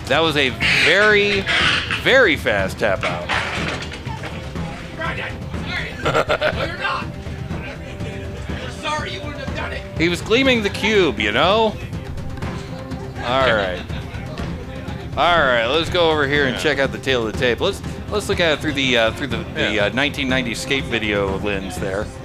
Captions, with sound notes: That was a very, very fast tap out. (laughing) He was gleaming the cube, you know? All right. All right, let's go over here and check out the tale of the tape. Let's look at it through the 1990 escape video lens there.